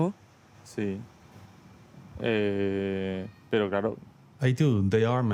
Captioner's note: speaking Spanish